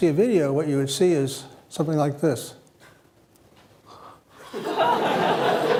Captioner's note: yawns; laughter